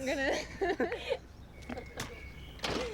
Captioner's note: laughing